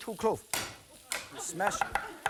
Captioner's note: audience laughing